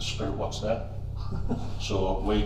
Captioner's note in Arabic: يضحك